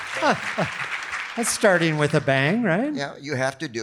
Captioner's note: laughs